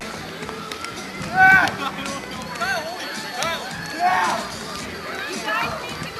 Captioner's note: indistinct people chattering